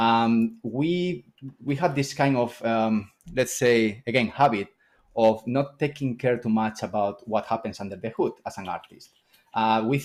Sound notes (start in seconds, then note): none